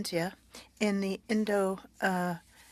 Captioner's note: speaking French